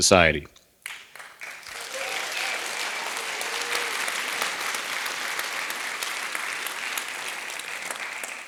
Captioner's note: applause